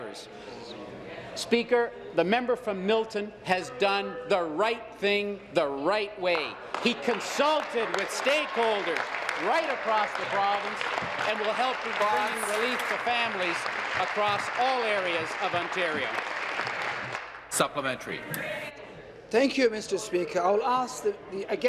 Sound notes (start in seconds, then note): 10.3 applause